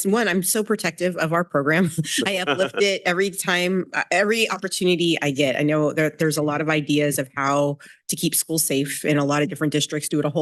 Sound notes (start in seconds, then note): 2.1 chuckles; 2.2 laughing